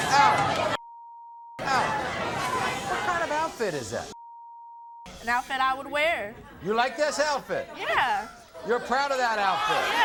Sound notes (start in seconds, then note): 0.2 beeps; 0.8 beep